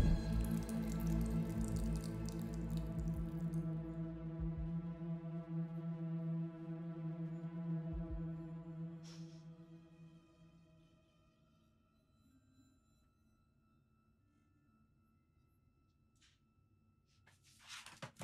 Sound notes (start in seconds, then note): 0.1 blood splashing